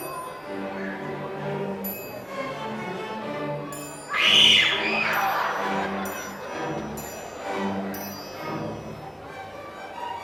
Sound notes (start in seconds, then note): 4.0 screaming; 4.4 audience laughing